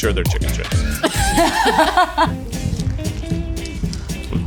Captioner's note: all laugh; upbeat music